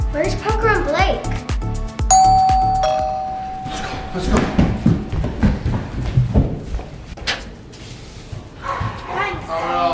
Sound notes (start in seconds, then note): 2.1 door bell chimes; 3.7 loud footsteps; 7.3 door opens